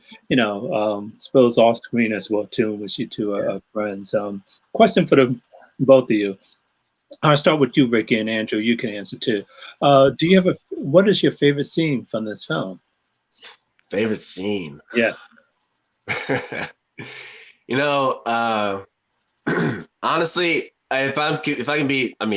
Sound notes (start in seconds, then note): 16.0 laughing